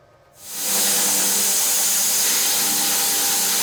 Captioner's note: saw whirring